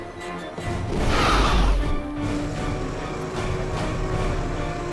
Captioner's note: creature screeches